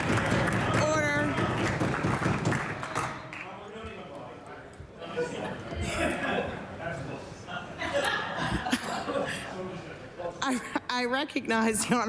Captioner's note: applause